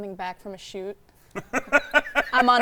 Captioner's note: laughing